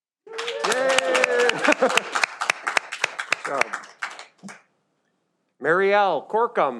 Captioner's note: audience cheers